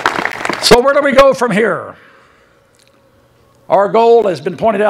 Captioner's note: applause